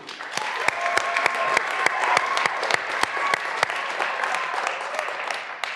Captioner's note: graduands cheering and applauding